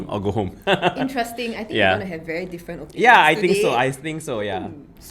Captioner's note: laughs